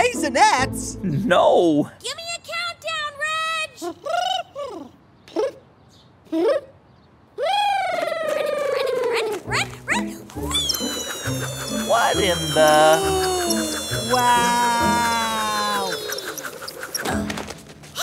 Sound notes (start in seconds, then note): 6.2 counting down; 10.4 soundbite of rope reeling